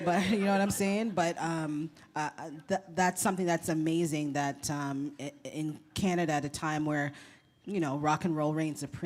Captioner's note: laughter